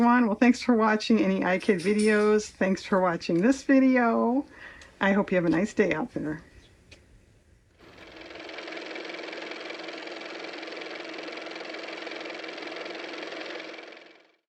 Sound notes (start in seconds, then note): 10.5 car motor